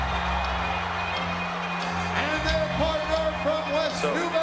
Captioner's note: funky hip-hop music; crowd cheering